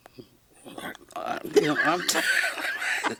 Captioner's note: erupts in laughter